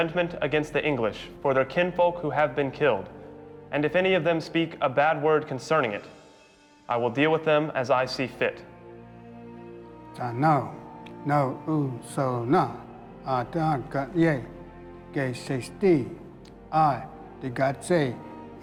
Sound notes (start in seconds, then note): 10.0 speaking Cherokee